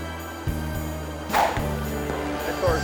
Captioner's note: screen whooshes